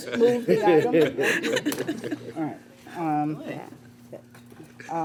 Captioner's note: laughter